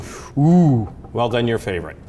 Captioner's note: exclaims